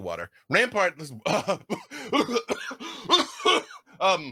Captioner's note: coughing